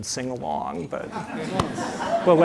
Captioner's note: audience laughing